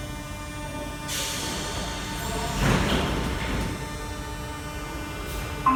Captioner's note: closing doors